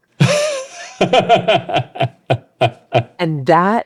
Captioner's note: laughing